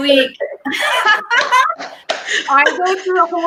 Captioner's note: laughing